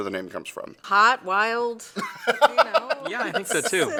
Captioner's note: laughs